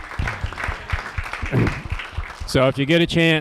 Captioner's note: applause